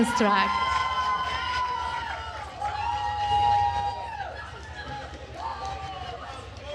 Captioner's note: attendees cheering and applauding